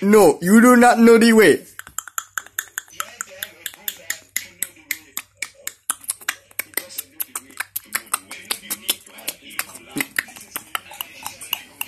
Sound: clucking

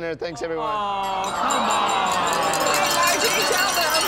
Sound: collective moans

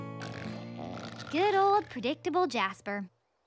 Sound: snoring

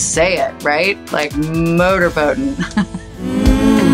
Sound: chuckles

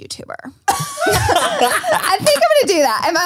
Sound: everyone laughs

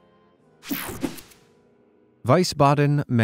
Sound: picture swooshes

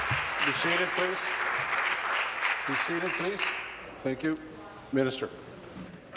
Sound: applause

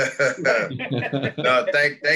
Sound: laughing

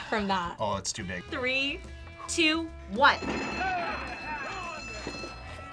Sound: bell rings

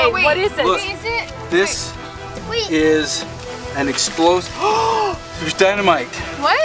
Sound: mom gasps

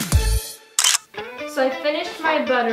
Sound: clicking

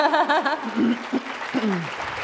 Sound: laughter; applause

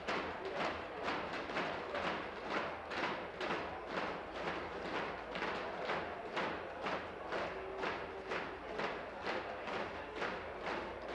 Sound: tapping on desks

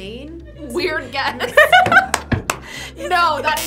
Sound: laughing

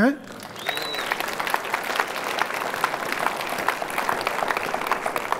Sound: audience applauds

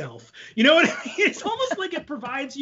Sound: laughs

